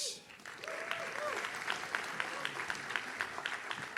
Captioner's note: audience cheers